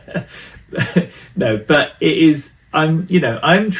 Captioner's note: laughs